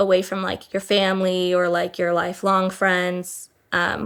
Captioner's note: none